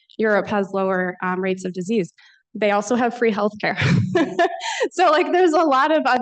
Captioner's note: laughs